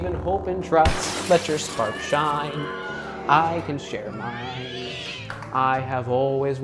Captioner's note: pandemonium sounds